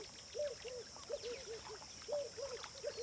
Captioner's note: birds calling in distance